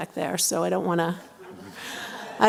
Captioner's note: laughter